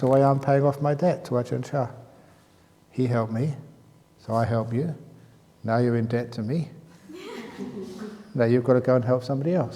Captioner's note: laughs